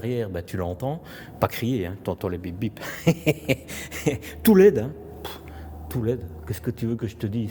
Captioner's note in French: rires